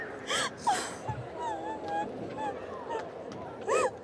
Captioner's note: crying